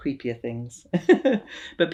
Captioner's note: laughs